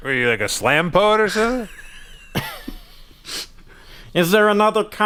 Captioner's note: laughter